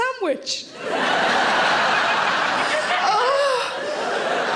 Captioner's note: audience laughs